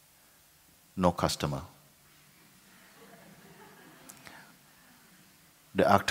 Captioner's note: laughter